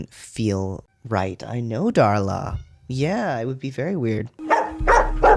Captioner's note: meowing in background